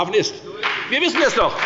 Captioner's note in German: Beifall bei der FDP